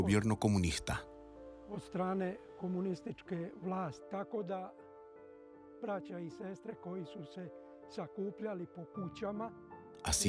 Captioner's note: Hablando idioma extranjero